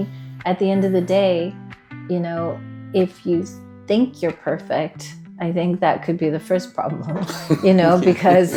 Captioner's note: laughs